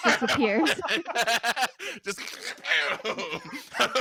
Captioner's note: laughs